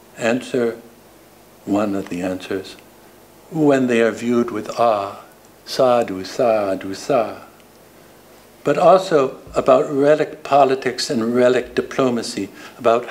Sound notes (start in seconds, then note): 5.7 speaking foreign language